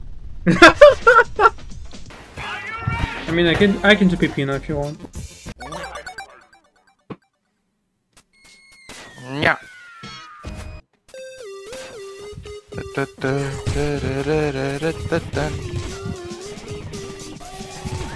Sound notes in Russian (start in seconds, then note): 12.9 Напевает тему уровня